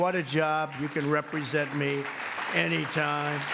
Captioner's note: applause